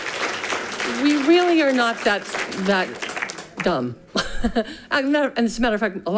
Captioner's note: people cheers and clapping; chuckles